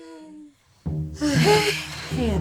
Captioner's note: sighs